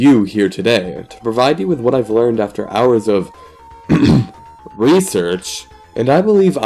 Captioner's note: ahem